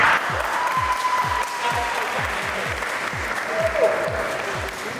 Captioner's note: applause